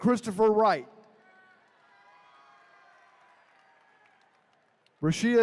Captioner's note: attendees cheering